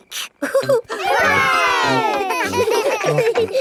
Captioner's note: laughing; chuckles